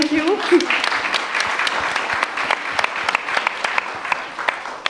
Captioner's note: audience applauds